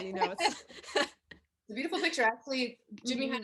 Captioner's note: they laugh